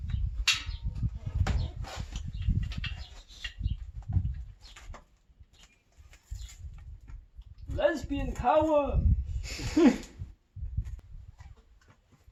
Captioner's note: laughter